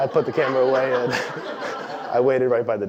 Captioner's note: laugh